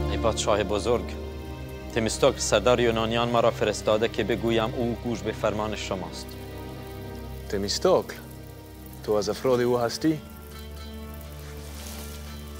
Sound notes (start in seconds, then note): 0.3 Persian speaking in foreign language; 7.5 Xerxes speaking in foreign language